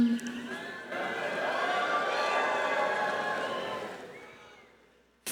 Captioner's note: crowd cheering